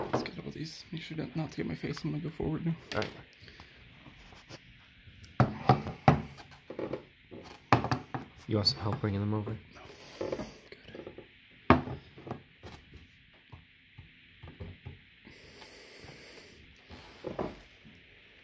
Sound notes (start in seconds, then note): 5.2 cans make noise as they hit the table beneath them; 11.4 can clatters